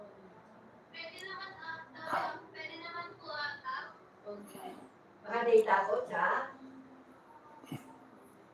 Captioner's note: clears throat